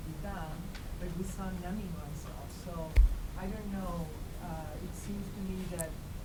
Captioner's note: voice muffled